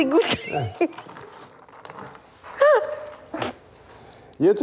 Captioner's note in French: rire